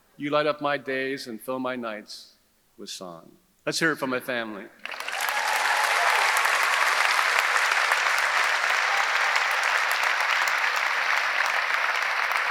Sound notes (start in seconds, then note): 4.8 audience applauding; 4.8 audience cheering